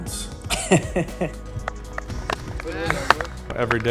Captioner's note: chuckles